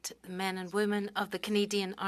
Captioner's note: speaking French